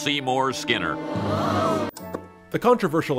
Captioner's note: audience gasps